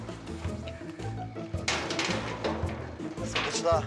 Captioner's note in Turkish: Kapı kapanma sesi